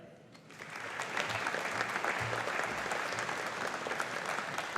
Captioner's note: audience applauding